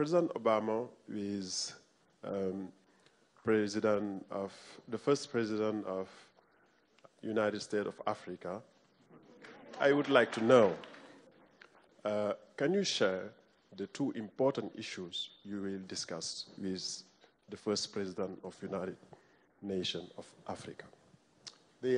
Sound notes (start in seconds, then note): 9.7 applause